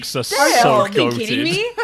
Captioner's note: laughs